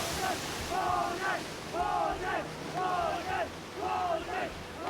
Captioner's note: men chant